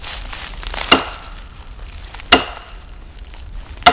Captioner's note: bat whacking